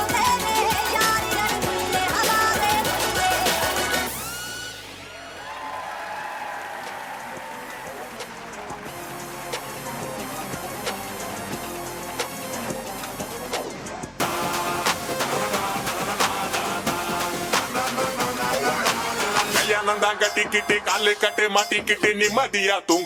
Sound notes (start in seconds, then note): 5.0 audience cheering and applauding; 7.5 gentle upbeat music; 19.7 upbeat foreign music